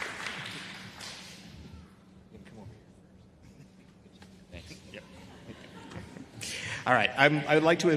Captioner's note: applause